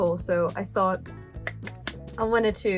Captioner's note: clap